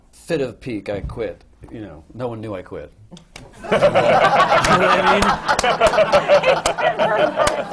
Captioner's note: laughter